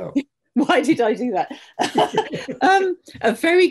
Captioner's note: both laughing